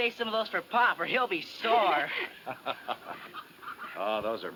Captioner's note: laughs